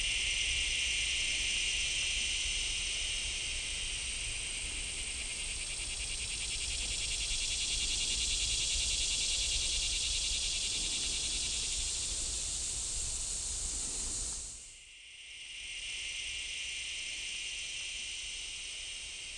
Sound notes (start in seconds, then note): 0.8 insects buzzing